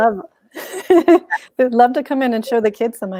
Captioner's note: chuckles